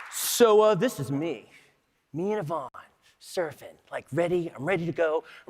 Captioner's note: applause